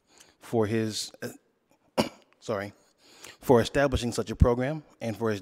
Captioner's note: coughs